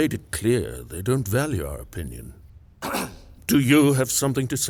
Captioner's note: man clears throat